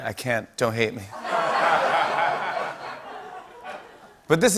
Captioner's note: laughter